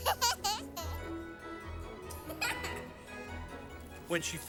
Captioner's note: laughing; laughing Continues